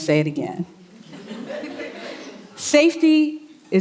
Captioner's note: audience chuckling